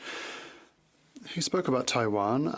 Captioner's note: speaking French